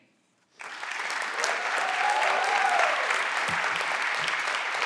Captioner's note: everyone claps and cheer